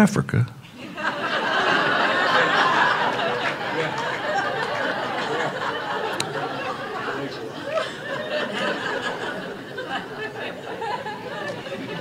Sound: congregation laughing

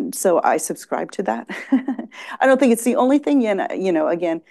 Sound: laughs

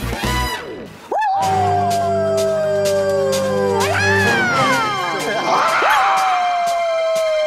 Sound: cheering

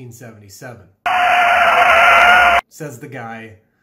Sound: yelling

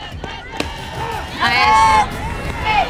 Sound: yelling

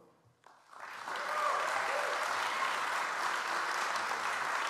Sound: audience applauds

